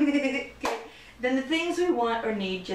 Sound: giggles

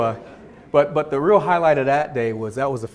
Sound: audience chuckles

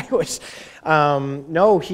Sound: chuckle

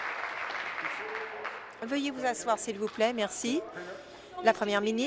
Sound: some Applause

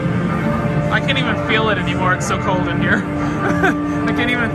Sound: laughs

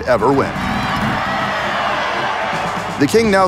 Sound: cheers

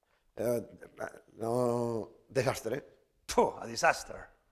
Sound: speaking spanish

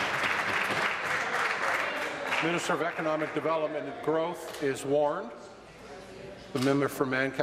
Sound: applause

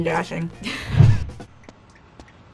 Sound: laughs

